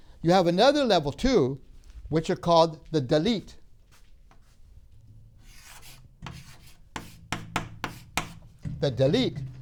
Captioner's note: chalk scraping; chalk tapping